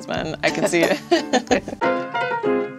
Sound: both laughing

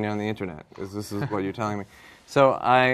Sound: laughter

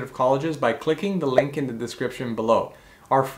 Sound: bubble popping

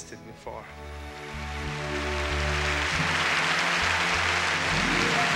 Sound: audience applauding

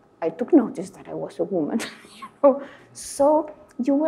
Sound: laughing

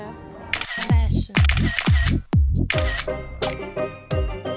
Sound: camera shutter clicks

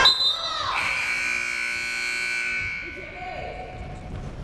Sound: timer buzzes

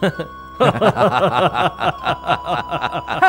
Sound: laughs

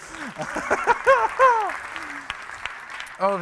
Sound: applauding

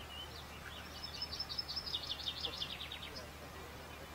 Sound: very loud bird sounds

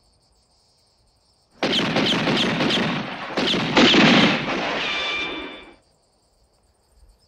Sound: gunshots

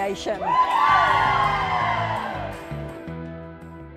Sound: cheering

